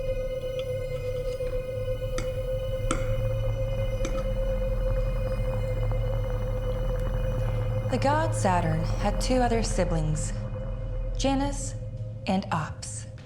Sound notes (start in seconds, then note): 2.3 cutlery scraping; 2.3 tense music